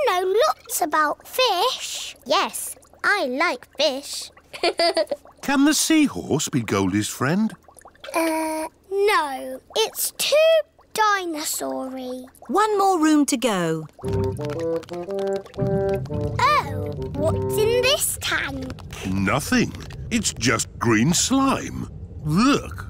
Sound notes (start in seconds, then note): 4.8 laughs